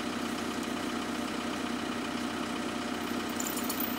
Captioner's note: engine idling